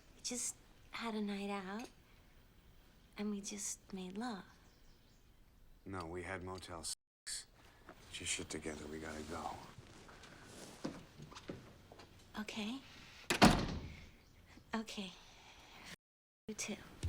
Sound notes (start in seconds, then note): 13.3 door slams shut